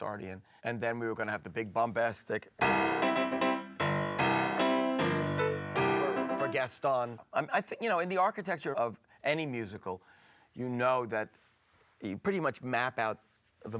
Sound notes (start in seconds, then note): none